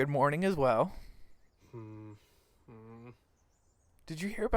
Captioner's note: he murmurs